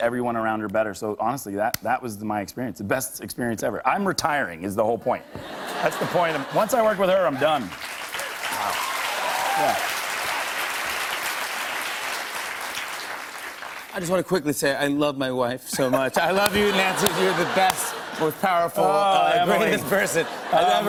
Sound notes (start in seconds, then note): 5.2 laughter; 7.2 cheers and applause